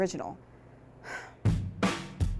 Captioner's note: sigh